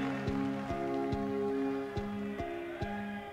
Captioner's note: distant applause; men cheering distantly